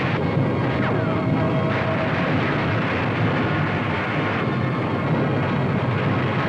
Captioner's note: fire roaring; bullets ricochet